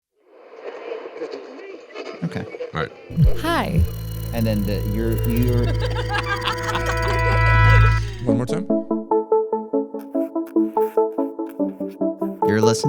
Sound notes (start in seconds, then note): 5.6 laughing; 9.9 upbeat music